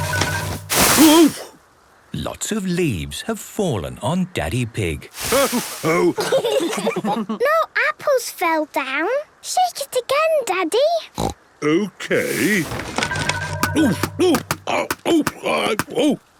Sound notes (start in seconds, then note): 5.8 laughter; 11.1 snorting